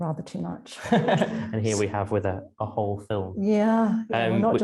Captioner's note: laughing